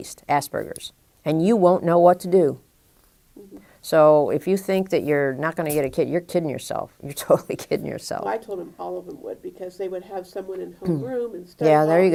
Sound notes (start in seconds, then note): 6.7 chuckle